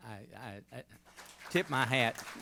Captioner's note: applause